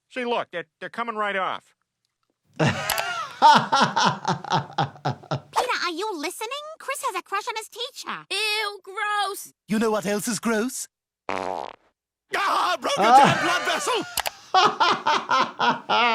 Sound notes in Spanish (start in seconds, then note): 2.6 se ríe; 14.5 se ríe